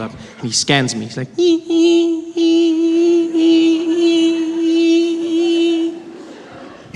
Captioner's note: sound of a scanner